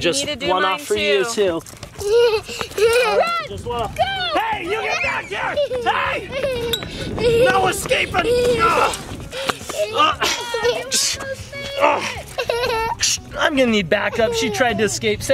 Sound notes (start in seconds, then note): 2.0 giggles; 4.7 shrieks and laughs